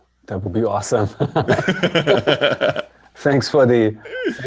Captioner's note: laughter